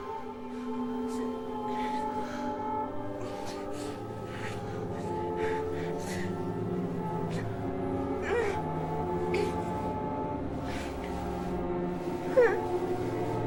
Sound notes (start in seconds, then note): 0.3 eerie music; 5.5 sexual noises